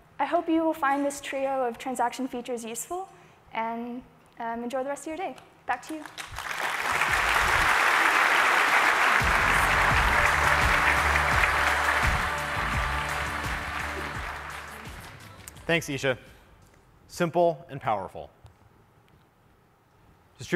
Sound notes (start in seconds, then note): 6.5 applause